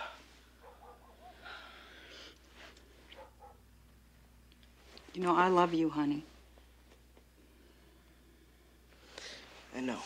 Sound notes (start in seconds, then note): none